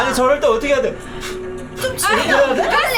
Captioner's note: blowing air